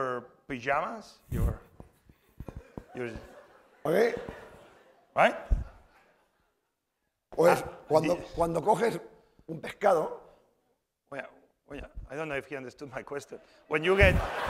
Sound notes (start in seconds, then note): 8.1 speaking spanish